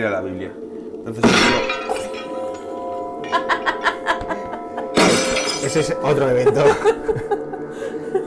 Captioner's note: laughs